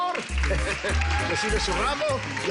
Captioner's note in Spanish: Aplausos